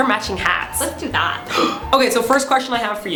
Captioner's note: gasp